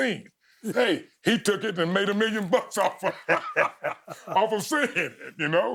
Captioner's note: chuckling